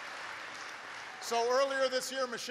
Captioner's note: applause